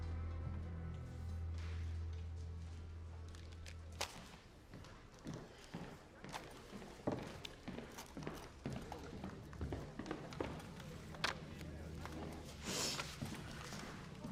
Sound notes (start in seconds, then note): 5.6 footsteps approaching; 10.9 clatters on desk; 12.5 sniffs